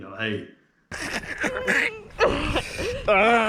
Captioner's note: choking, struggling